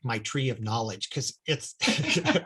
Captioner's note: both laughing